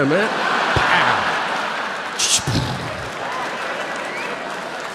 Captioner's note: audience laughing